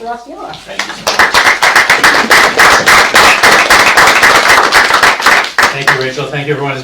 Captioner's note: clapping